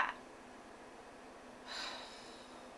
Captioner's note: sighs